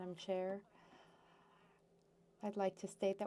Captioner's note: speaking French